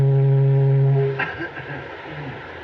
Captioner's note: ahem